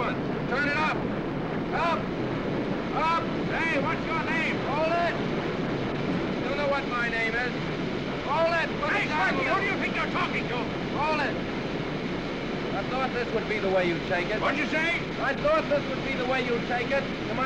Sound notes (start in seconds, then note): none